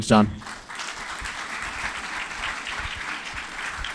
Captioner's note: applause